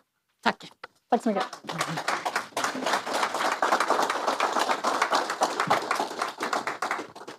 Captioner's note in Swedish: Applåder